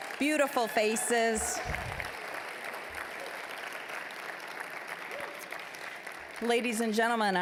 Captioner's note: applause